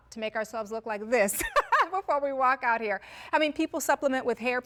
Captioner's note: laugh